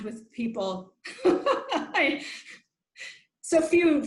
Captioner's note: laughs